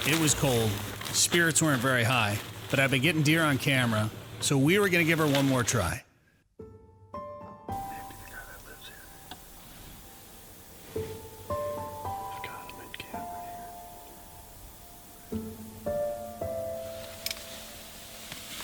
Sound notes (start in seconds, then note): 12.5 whispers; 15.5 soft somber music